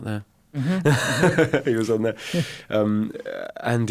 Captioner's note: laughs